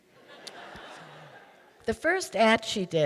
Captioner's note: audience laughing